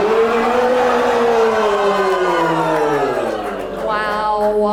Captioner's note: audience laughs and groans